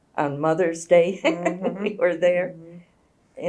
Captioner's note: laughs